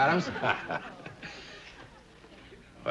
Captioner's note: chuckles